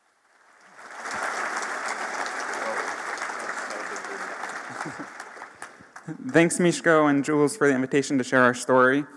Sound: applause

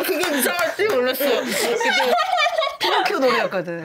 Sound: clapping

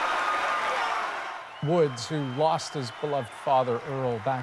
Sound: cheers and Applause

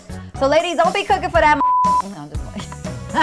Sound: beep

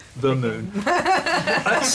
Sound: laughter

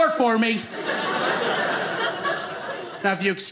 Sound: audience laughing

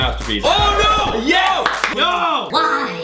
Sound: clapping

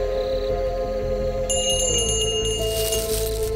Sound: bell Rings

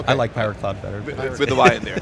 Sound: chuckles

